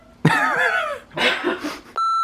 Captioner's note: laughter